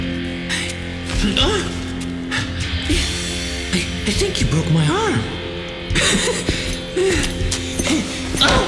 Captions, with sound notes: Ohhh. I think you broke my arm. (laugh)